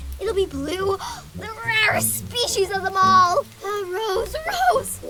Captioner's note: gasp!